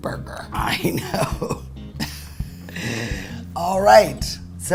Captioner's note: laughs